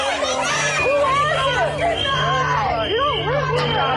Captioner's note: people yelling; whistles blaring